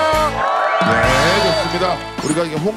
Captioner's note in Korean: 와아아아아아